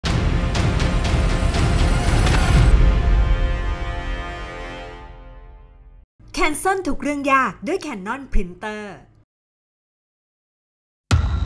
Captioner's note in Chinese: 中文